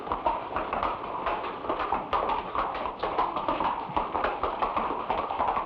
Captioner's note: horse hooves patter